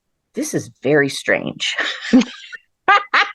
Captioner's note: laughter